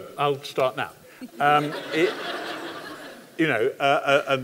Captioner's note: laughter